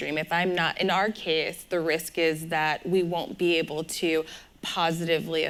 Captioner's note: none